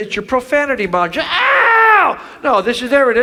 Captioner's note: Chuck screams